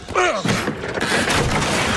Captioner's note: grunt